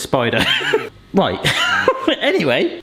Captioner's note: laughs